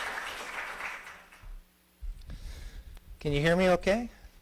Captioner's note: applause